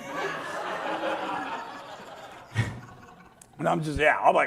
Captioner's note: audience laughs